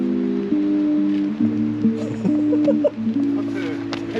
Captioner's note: failed to resist laughing